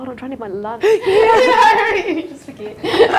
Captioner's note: laughing loudly